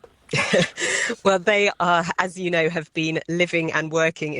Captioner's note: chuckles